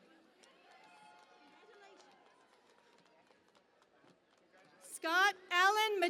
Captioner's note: cheering and Applause